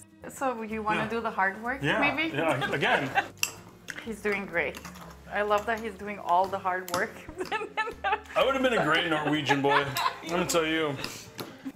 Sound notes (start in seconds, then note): 7.4 laughing